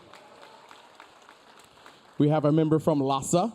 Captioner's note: audience cheering